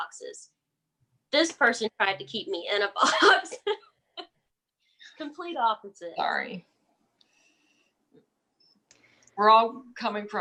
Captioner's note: laughs